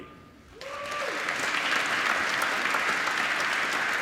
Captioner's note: applause